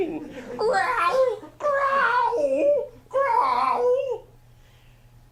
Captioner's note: baby bear growling